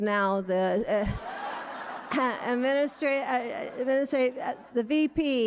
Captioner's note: audience laughing